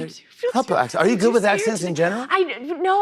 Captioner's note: normal voice